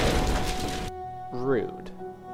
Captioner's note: unity engine exploding